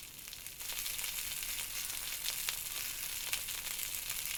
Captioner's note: sausages sizzling